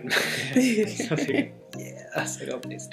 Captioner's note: both laughing